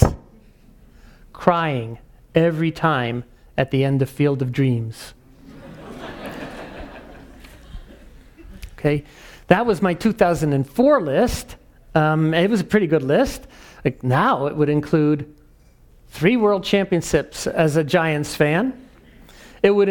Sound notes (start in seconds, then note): 5.5 laugh